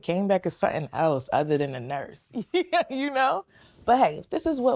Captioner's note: laughing